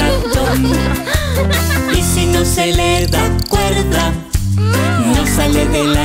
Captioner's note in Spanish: Risas